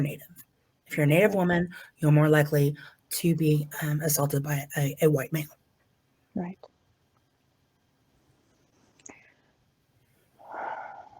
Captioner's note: sighs deeply